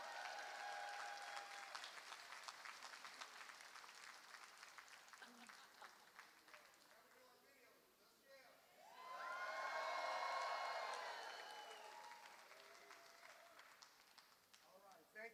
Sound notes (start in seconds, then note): 8.8 applause